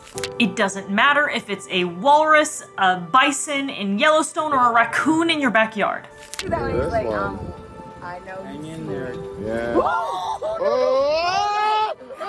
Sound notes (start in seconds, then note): 6.2 clip: people chatting; 9.6 clip: people shouting/screaming